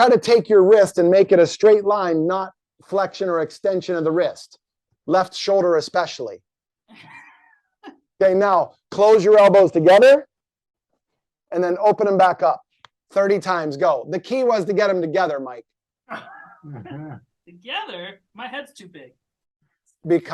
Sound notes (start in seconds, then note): 7.1 laughing; 16.1 laugh